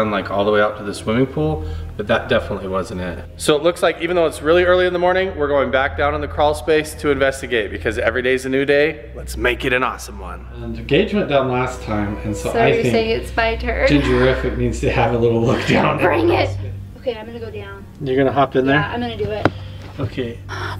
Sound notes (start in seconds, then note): 13.8 chuckles